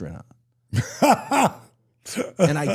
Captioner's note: Dallas laughs